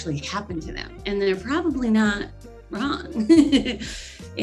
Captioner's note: laughs